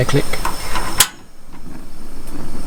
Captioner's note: piezo clicks; flame whirs